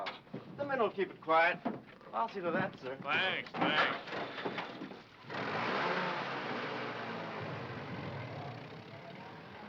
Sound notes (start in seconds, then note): 5.4 engine chugging